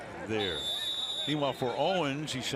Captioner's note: whistle